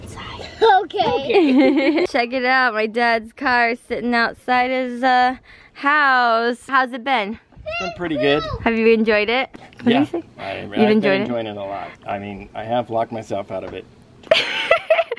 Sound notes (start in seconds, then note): 1.2 laughs